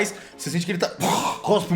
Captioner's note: blurgh